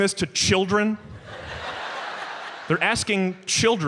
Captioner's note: audience laughs